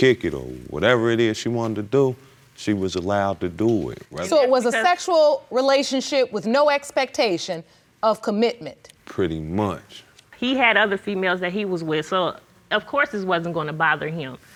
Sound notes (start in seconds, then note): none